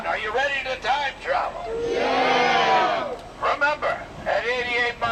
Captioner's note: none